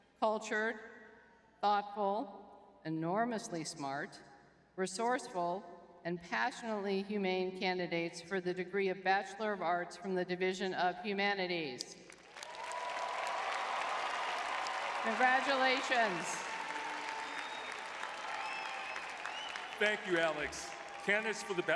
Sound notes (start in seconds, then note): 13.0 crowd cheering